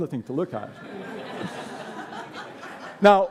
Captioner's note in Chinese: 笑聲